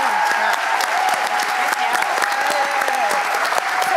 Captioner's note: applause